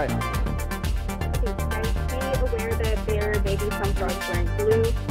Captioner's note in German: Voiceover